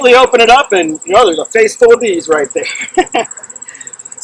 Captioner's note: laughs